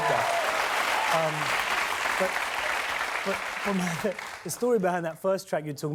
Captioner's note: cheers and applause